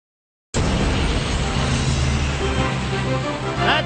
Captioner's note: plane engine roaring